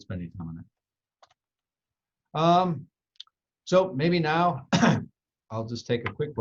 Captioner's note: coughs